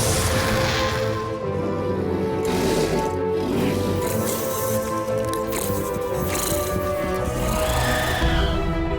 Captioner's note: loud squawking